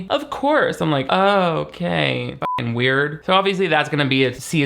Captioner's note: beep